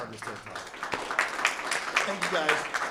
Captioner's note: applause